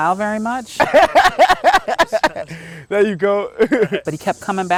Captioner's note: laughing